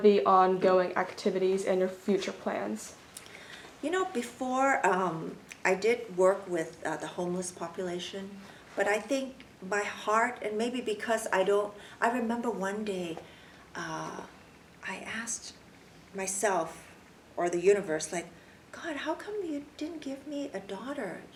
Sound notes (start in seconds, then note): none